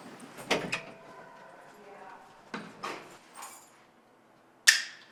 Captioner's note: door clicks; buckle clicks